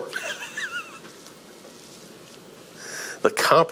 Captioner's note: presenter laughing